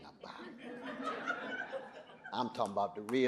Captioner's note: audience laughing